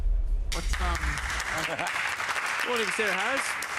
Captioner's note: audience applauding